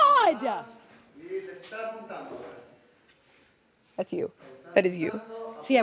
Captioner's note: video crew member speaking in foreign language